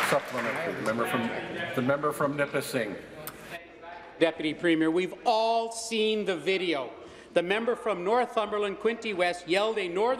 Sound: applause

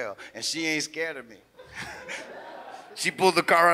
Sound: laughs; audience laughs

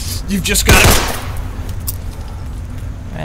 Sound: gunshots

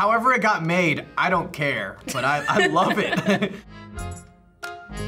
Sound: laughs; accordion music

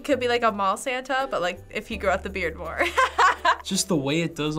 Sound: laughs

